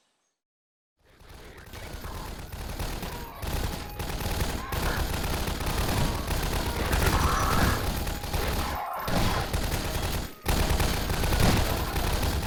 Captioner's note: gunfight sounds